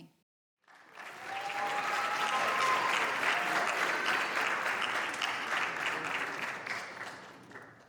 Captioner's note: applause